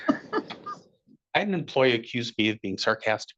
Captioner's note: attendees laughing